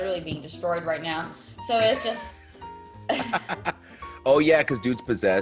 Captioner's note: laugh